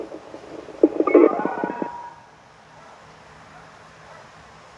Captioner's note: telephone noises